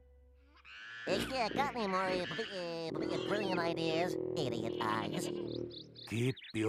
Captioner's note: stuttering